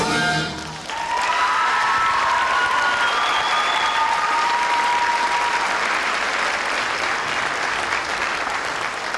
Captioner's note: applause